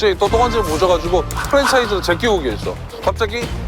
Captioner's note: clicks